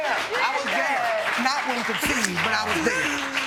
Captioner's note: sobbing